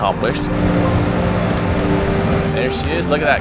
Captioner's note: tow truck winch whirring